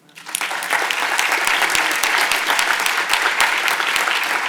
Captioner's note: audience applauds